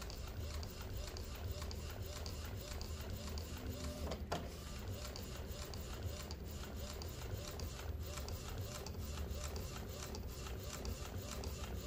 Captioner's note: printer machine sound